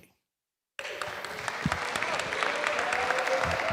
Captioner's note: applause